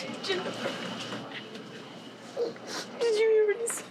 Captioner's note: crying